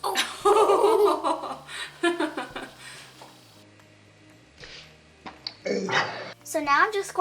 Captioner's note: laughing